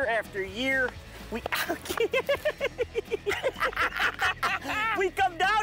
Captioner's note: laughing